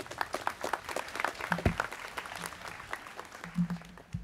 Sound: students clapping

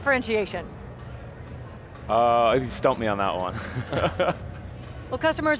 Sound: laughs

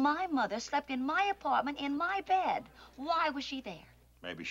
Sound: none

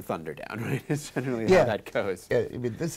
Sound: laughs

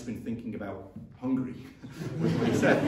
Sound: laughter

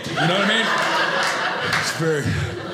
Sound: audience laughing

